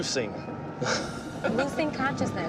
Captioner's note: laughs